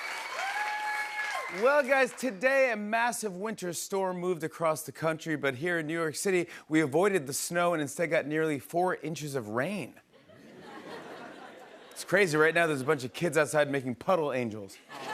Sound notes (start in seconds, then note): 10.2 laughter